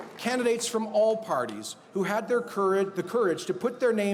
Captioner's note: applause